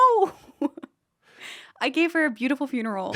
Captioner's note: laughs